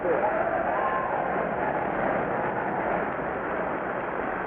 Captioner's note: people cheering